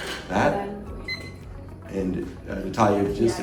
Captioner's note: machine beeps